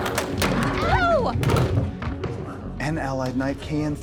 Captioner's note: door rattling